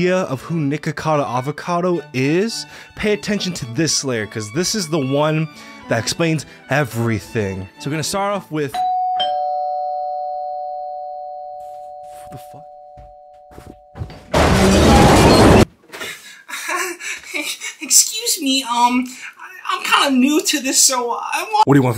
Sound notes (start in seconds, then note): 8.7 door bell ringing; 14.2 loud crashing